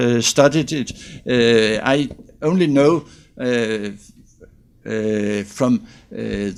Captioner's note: student speaks faintly